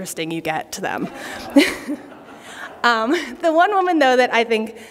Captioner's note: laughter